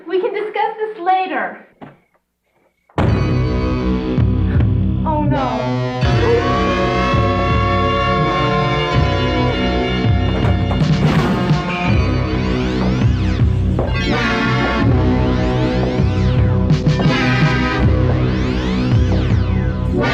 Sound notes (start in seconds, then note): 3.5 ominous sci-fi music; 6.0 wolf howling; 7.0 ominous sci-fi music